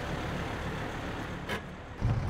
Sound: bus brakes

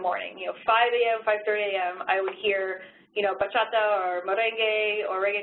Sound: speaks in Spanish

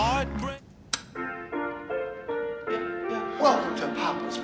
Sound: button clicking; bright piano music

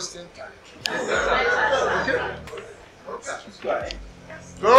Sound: chatters

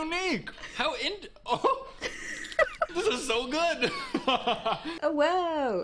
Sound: laughing

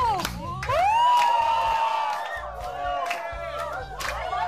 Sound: cheering

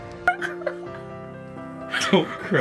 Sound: laughing

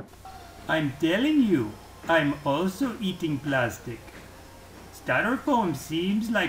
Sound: Indian accent

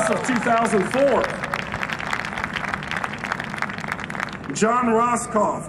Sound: cheering and Applause

